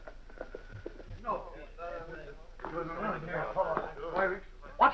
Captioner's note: indistinct chatter